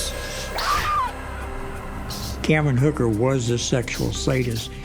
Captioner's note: whip crack, woman screams